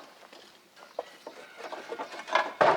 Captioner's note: rooster crowing